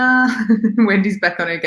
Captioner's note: laughs